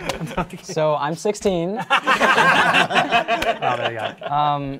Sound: participants applauding

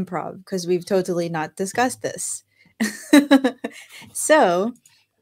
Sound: chuckles

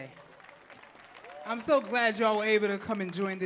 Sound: audience clapping and cheering

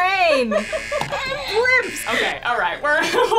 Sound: buzzer moans

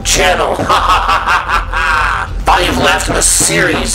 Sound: evil sounding laughter

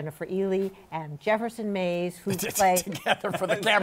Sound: laughing

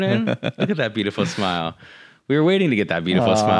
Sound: laughs

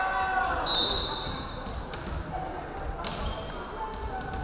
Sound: referee whistling

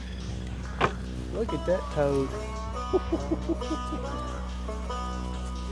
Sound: laughing

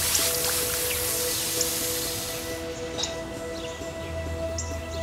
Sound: water running

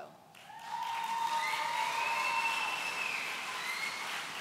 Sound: audience cheering

